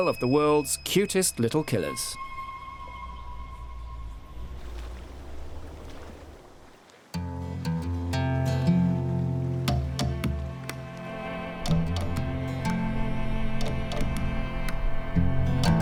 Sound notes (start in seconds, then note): 4.1 water splashes; 7.5 gentle music